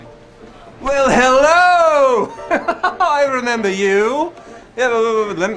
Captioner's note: piano Music; laughing